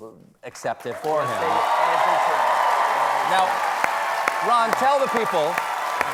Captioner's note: applause